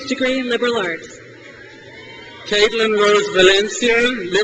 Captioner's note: crowd cheers